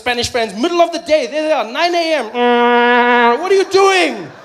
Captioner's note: sound of a vuvuzela